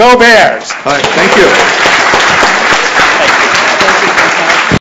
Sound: applause

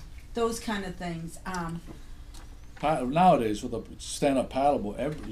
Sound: voiceover

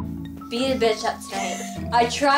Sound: laughs

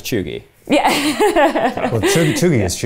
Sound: chuckling

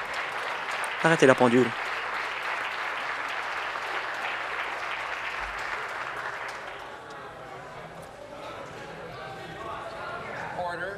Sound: applause

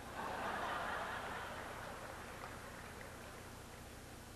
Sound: audience laughs

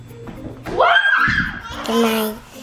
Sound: children yell; toddler laughs

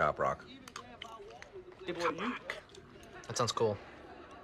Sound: quietly

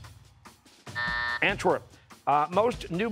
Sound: buzzer

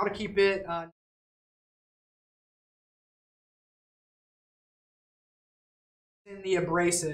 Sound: technical difficulty - no audio

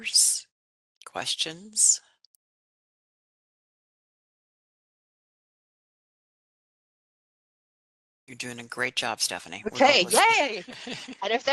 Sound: laughing

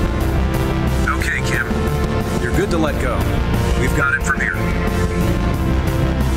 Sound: intercom

